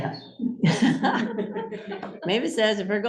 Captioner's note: laughter